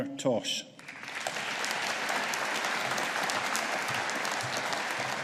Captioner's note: audience applauding